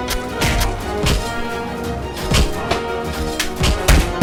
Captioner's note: gunshots firing; sword whooshing